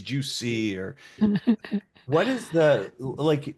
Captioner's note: laughing